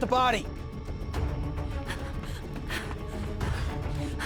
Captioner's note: running footsteps, panting